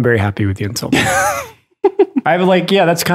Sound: Father Innocent laughs

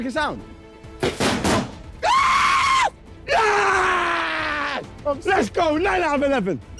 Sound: screaming

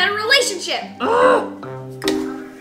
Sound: mom growls in frustration; whimsical music

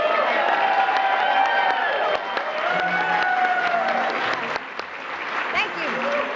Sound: applause

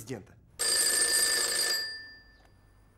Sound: phone ringing

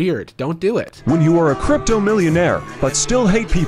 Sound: voiceover

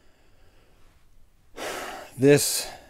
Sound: sigh

